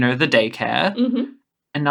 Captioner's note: affirmative hum